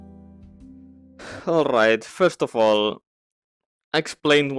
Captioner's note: sigh